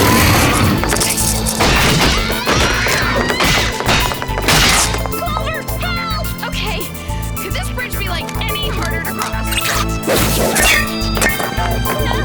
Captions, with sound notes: Wrong up button. [spikes piercing wood] [screaming] Clover, help. OK. Could this bridge be like any harder to cross.